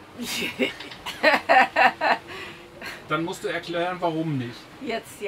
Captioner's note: laughs